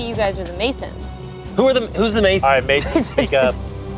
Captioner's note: laughs